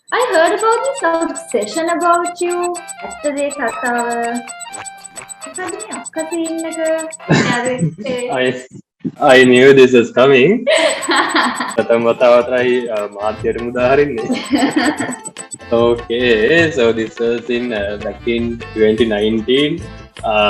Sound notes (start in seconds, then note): 7.3 laughs; 10.6 laughs